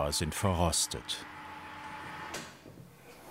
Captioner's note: short whirring